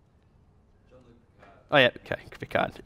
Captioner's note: voiceover